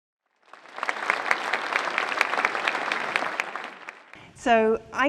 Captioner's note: audience applauding